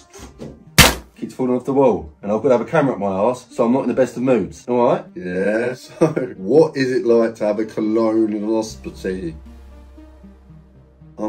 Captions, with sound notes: Keeps falling off the wall and I've got to have a camera up my arse, so I'm not in the best of moods. All right? Yes. So. (laughs) What is it like to have a colonoscopy? I'm so dumb.